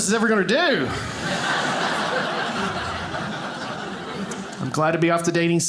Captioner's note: audience laughing